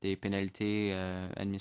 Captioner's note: speaking french